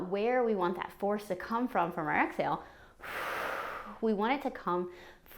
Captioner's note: exhales